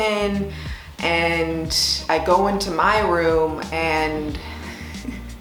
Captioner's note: laughs